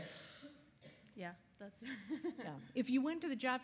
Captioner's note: laughs